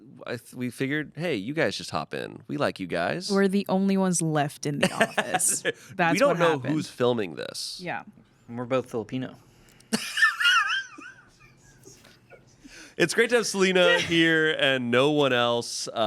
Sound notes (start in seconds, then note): 9.7 laughs